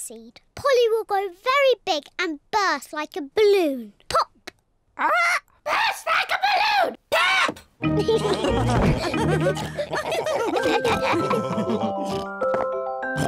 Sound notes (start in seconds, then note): 8.0 all laugh; 10.3 tinkling music playing